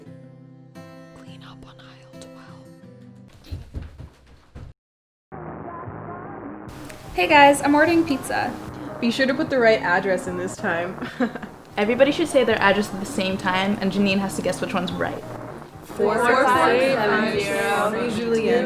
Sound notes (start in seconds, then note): 5.3 TV Static and Music